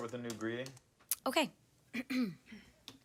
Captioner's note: clears throat